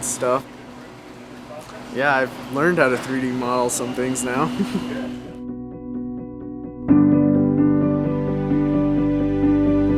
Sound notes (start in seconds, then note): 4.6 laughs